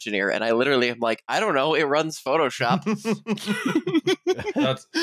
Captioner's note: laughter